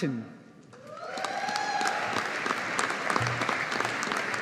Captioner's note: audience applauding